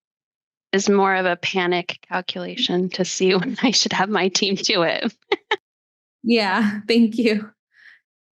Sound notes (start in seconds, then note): 4.6 laughing